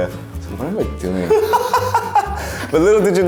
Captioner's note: laughs